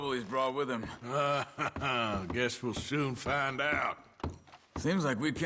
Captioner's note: laughs